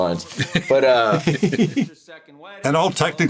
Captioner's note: chuckles